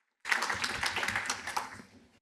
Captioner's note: applause